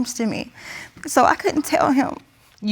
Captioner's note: tearfully